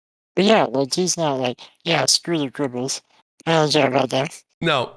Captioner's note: laughs